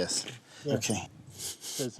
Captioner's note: sniffs